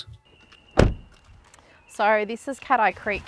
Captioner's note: car door slams shut